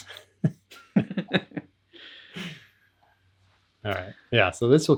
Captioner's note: laughs